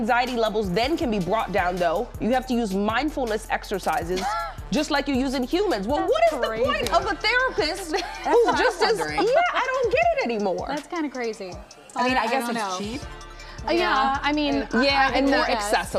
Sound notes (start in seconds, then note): 10.1 laughter